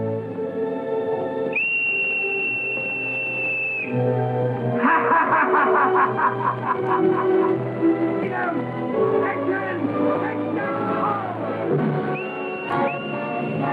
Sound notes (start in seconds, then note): 4.7 laughing